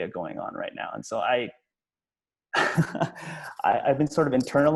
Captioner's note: laughs